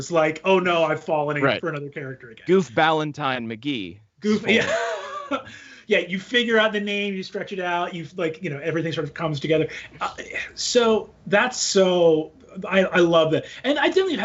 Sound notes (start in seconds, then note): 4.4 laughs